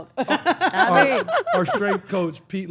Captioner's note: laugh